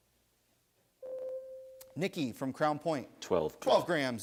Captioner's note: buzzer sounds